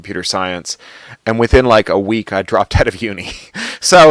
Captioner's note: laughs